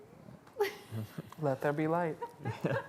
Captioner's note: laughing